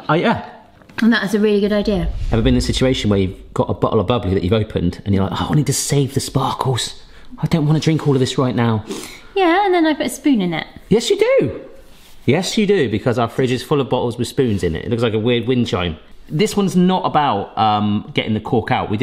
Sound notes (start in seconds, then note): none